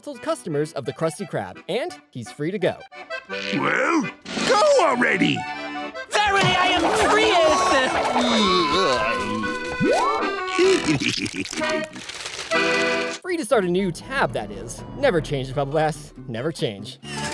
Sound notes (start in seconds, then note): 7.5 groaning; 10.2 giggling